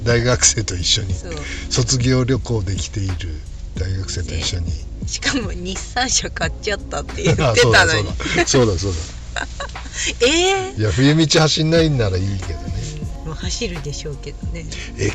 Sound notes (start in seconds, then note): 7.9 laughs